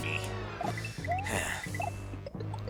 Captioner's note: sigh